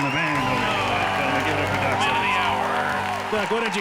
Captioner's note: crowd cheering